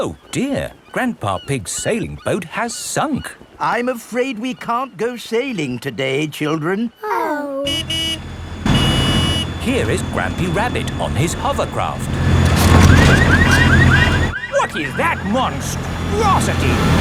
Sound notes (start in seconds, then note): 7.6 honking; 13.0 car alarms blaring